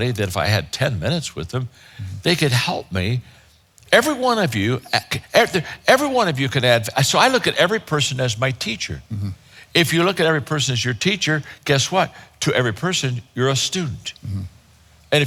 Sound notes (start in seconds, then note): none